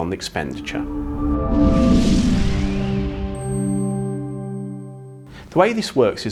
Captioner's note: gentle music; graphics whooshing